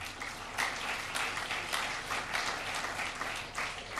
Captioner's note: crowd applause